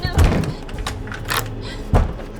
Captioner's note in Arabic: يتحول القفل